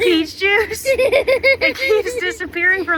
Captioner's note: laughing